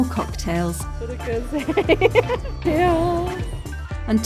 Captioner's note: laughing